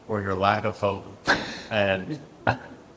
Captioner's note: laughs